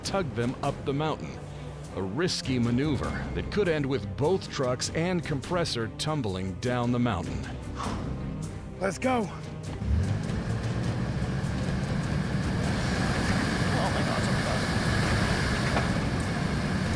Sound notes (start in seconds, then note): 9.7 engine revving